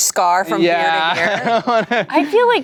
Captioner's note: laughs